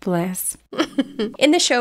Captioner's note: laughing